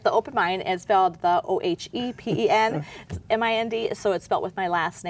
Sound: laughing

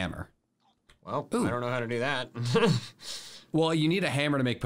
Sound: laughs

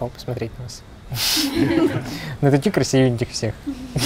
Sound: laughter

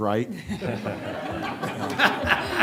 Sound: laughter

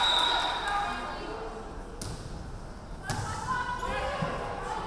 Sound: referee whistling

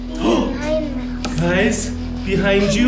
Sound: gasps

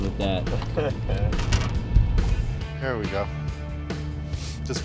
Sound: man 6 chuckling

